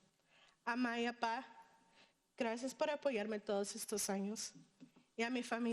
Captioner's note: speaking in foreign language